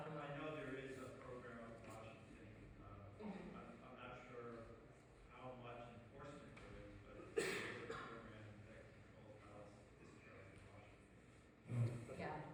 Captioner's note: coughs and mumbles